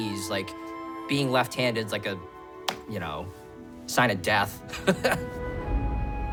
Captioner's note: laughs